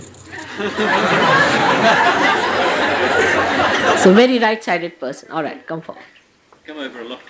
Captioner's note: laughter